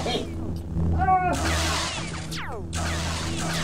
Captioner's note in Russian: световые мечи и лазеры сталкиваются